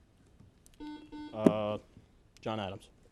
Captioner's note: buzzer